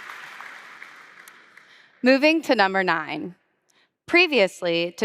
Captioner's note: applause